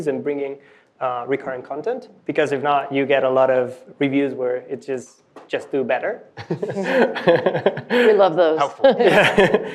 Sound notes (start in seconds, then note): 6.4 laughing